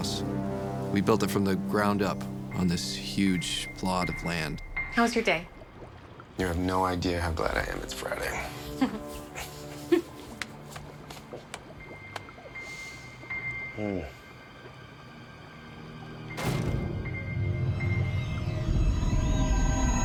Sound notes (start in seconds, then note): 8.4 laughs; 16.4 bangs